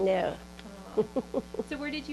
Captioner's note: laughs